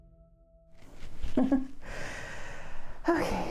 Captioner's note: awkward laugh